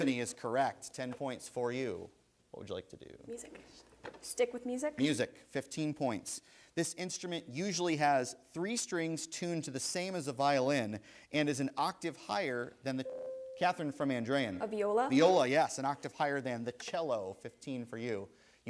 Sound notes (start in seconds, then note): 13.0 bell rings